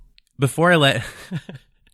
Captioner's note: laughs